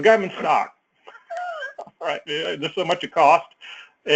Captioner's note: laugh